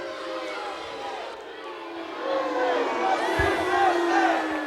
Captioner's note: crowd boos, chants "USA"